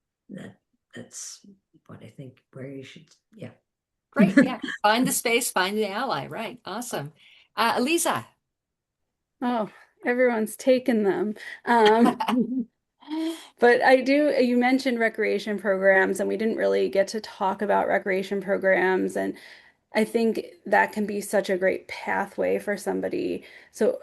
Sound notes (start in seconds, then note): 4.2 chuckles; 11.7 laughing